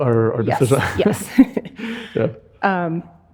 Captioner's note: chuckles